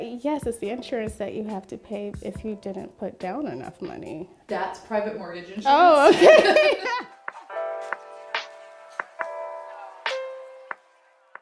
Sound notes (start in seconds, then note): 6.0 laughs; 7.1 gentle music